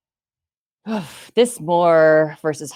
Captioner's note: exhaling